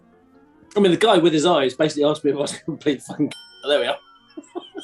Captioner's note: ding!; giggling